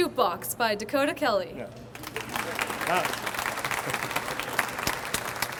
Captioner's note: audience applauds